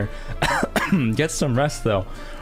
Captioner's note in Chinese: 咳嗽